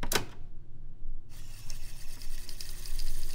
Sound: clicks; tape rewinding

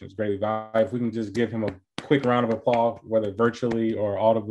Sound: claps

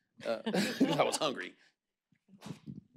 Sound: laughs

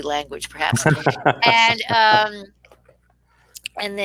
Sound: laughing

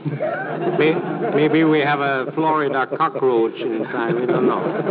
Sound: laughter

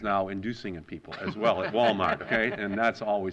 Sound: laughter

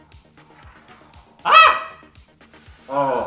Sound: screams; breaths deeply

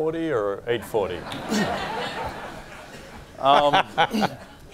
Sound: laughing

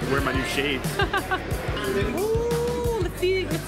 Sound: laughing

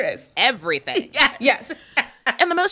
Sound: laughter

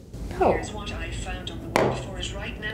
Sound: automated Voice

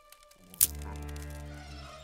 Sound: Ewok noise

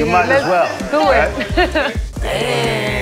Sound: laughs

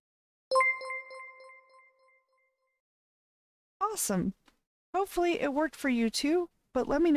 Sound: alert Sound

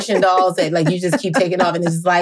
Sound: laughing

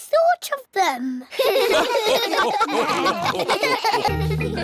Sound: all laugh

